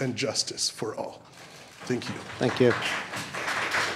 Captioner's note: applause